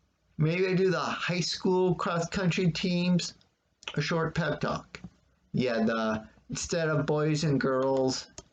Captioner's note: click of trackpad